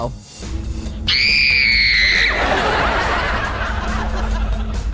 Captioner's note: screaming